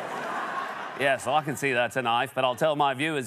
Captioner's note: laughter and applause; Australian accent